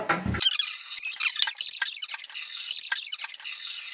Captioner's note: squeaking